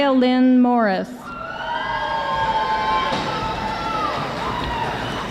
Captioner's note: audience applauding